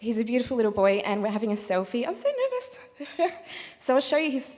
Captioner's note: laughing